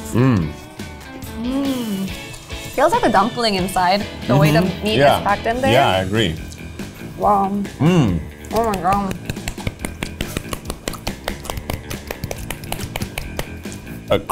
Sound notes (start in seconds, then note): 10.2 clapping; 11.6 both clapping